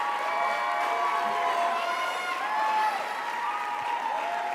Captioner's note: crowd cheers loudly